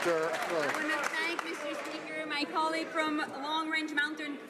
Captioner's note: some Applause